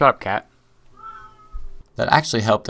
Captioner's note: my cat wails in retaliation